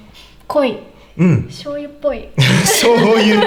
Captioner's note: laughs